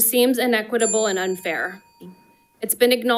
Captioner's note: bell dings